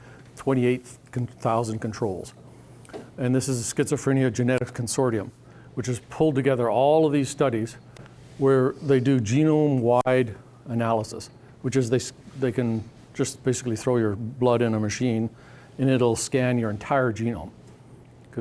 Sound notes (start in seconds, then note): none